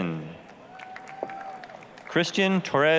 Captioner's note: applause, cheering